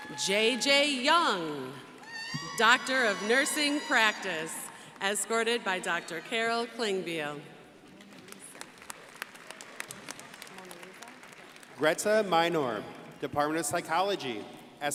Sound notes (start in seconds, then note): 0.0 crowd applauding; 8.1 crowd applauding